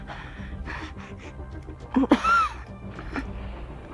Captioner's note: coughing up blood